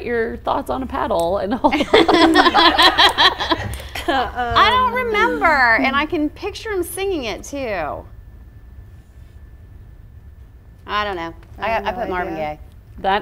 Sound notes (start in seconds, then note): 1.8 all laughing